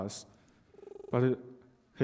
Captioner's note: typing Sound